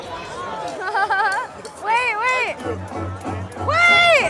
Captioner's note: laughs